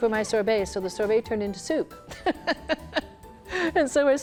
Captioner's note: laughs